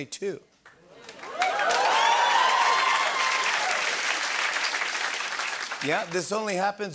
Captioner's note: cheering and applause